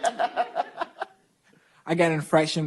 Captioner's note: laughter